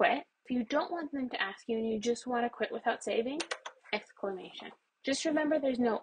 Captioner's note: keyboard clicks